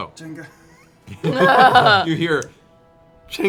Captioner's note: laughter